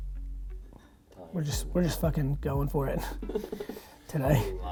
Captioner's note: laughs